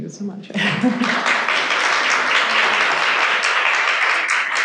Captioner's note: audience applauding